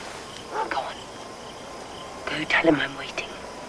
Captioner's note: whispering